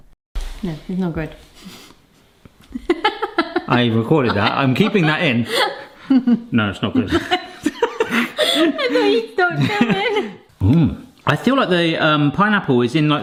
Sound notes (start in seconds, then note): 2.7 laughs